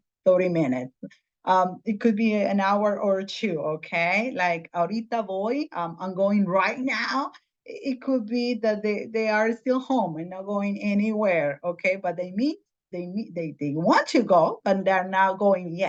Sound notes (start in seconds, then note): 4.1 in Spanish